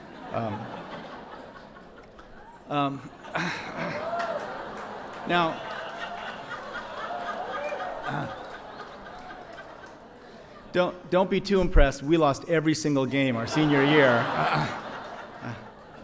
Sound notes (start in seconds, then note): 0.3 audience laughs; 3.4 clears throat